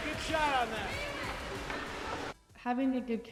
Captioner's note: faintly speaking